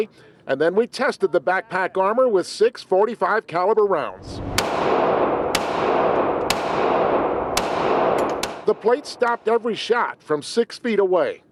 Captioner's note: gunfire